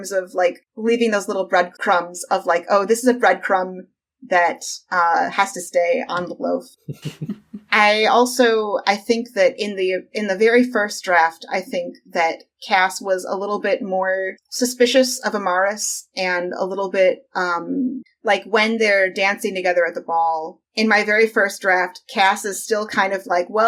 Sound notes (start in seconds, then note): 6.8 laughs